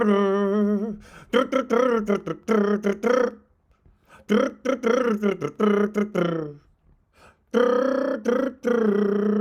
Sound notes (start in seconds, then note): 0.0 humming